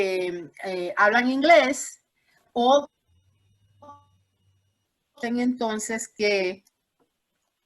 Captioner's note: corte de audio